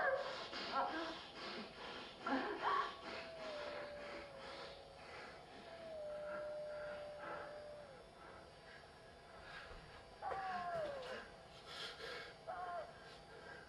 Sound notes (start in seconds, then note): 3.9 heavy breathing